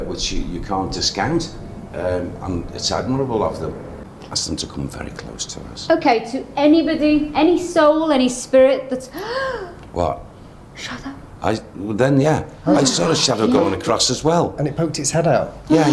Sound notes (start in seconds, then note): 9.2 gasps